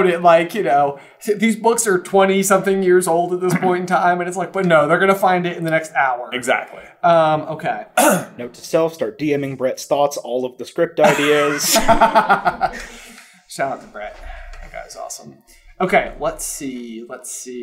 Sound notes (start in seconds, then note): 11.0 laughter